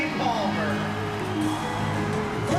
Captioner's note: cheers and applause